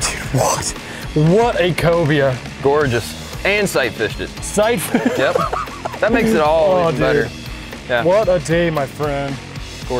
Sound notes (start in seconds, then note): 4.8 laughing